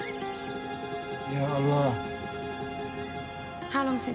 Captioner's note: omar speaks arabic